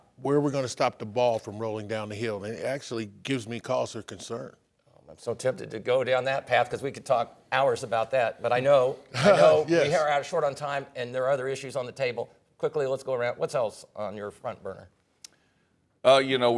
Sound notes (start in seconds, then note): 9.1 laughs